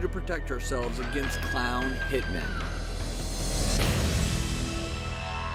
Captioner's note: female screams